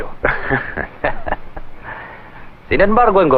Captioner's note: chuckling